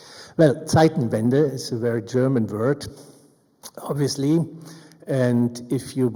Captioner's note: speaks in German